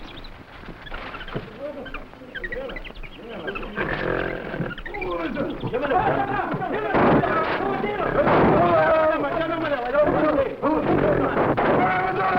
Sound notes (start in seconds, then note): 3.5 gorilla groaning; 5.2 servants excitedly chattering in foreign language; 6.8 gunshots echoing; 7.0 servants chattering; 9.2 gunshots echoing; 10.0 gorilla groaning